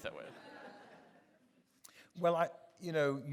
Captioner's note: audience laughing